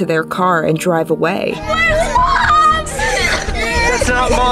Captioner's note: other kids crying